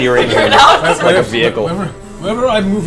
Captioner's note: all laugh